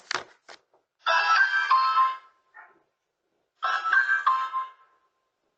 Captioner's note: ring doorbell